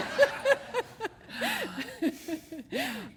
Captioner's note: laughter